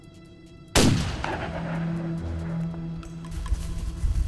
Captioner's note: gunshot